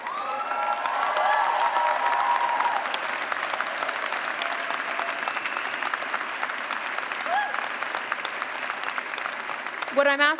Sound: cheers and clapping

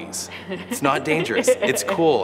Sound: laughing

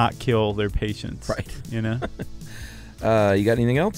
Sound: laughs

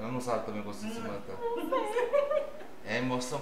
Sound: laughs

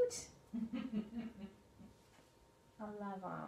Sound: laughs

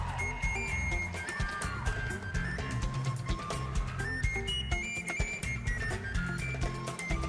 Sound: cheering, applause

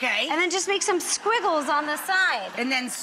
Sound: audience laughs

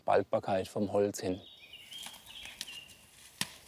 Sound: birds chirping

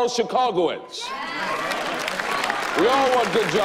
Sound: applause

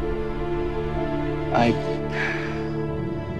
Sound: sighs

